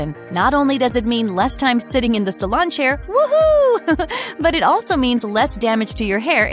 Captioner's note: woohoo!